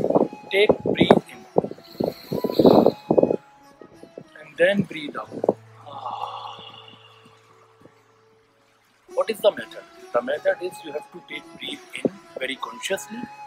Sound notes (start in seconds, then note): 5.7 breathing out